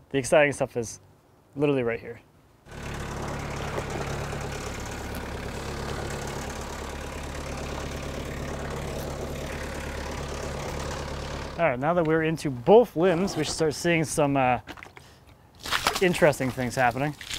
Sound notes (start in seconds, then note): 3.5 skid steer engine humming